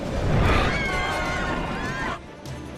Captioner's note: screaming